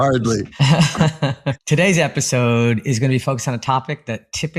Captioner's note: laugh